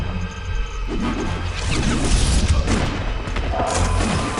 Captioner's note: rapid gunfire; electronic zaps; rapid gunfire